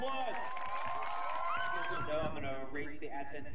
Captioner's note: audience applauds and cheers